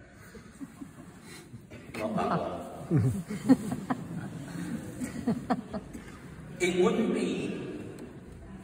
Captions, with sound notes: [audience laughter] ..Not that one..! [more audience laughter] It wouldn't be....